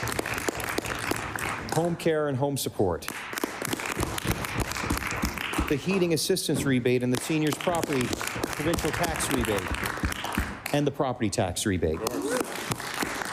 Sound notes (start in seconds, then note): 7.0 applause